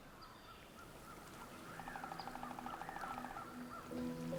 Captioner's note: birds chirping; water trickling